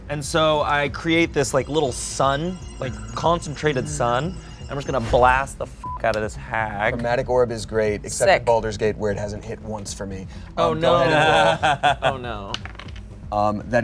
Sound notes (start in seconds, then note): 6.0 beep; 11.0 laughs